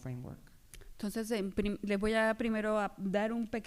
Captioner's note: speaking spanish